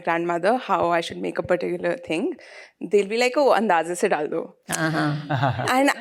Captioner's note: non-english speech